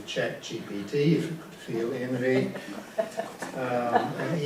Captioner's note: audience laughs